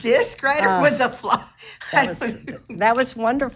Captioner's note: laughing